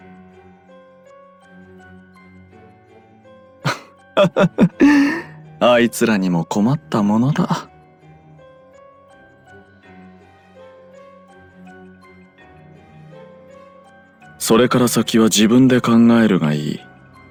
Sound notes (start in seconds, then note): 4.2 laugh